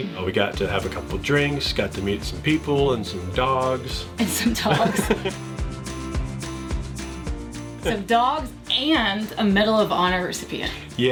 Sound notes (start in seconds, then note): 4.2 laughing